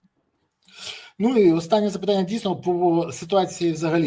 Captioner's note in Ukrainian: сопіння